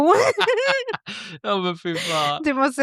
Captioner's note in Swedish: skratt